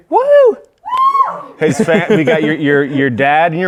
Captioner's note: laughing